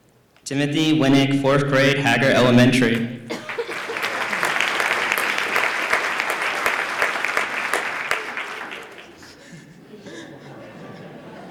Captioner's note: applause